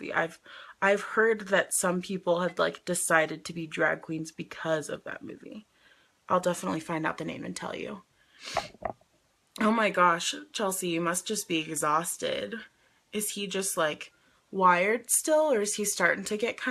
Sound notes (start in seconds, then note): 8.4 sniffs